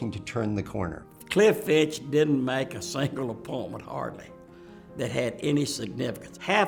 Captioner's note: laughs